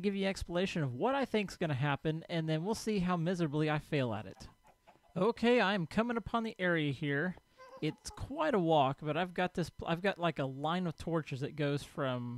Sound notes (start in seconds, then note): 4.7 animal sounds diminish; 7.1 ghast squalls